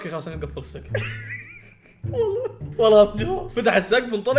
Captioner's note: laughs